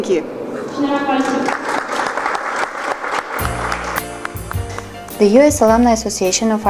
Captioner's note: applause